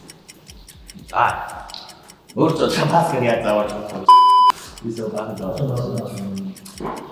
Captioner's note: beep